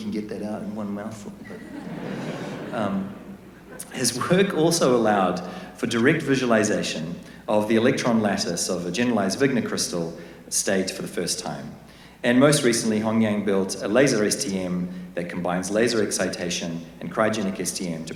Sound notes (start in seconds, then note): 1.4 laughter